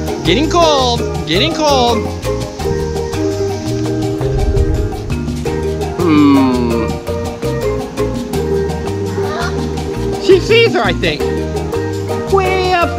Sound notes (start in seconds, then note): 5.9 gasps